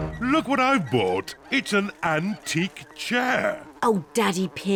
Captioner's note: oinks; flies buzzing